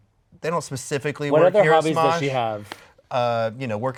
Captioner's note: none